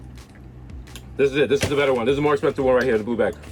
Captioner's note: slaps desk